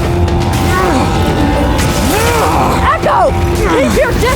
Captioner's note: eko grunting